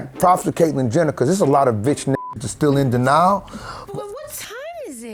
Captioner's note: beep